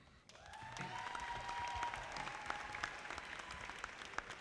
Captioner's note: audience applauding